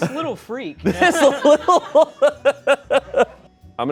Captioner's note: laughs